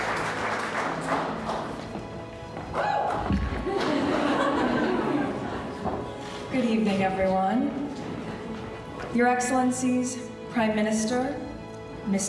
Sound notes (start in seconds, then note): 2.8 audience cheering; 3.6 audience laughing